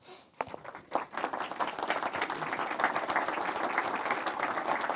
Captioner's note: applause